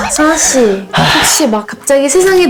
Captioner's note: sigh